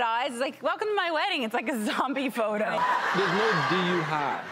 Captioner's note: crowd laughing